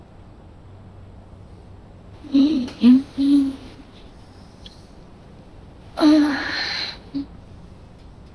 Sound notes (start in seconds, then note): 5.9 groan